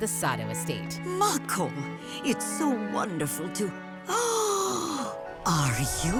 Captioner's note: gasping